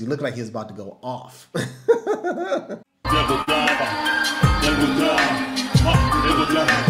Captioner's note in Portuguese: Risada